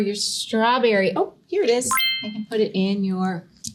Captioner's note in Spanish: pitido de bocina optimista